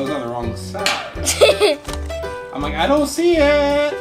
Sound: laughs

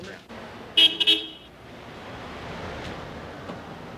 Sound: horn honking

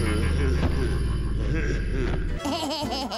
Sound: laughing

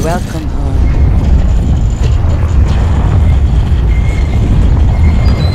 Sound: gate clanking

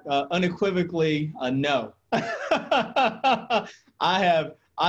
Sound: laughs

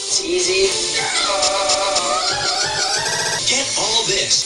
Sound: stupid giggly girl noises

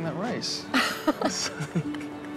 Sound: both laughing

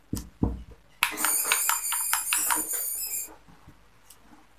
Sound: mice squeaking

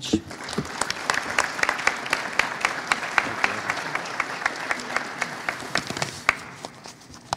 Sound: applause

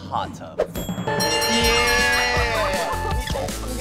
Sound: laughing

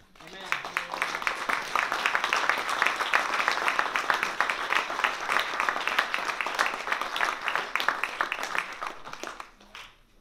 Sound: applause

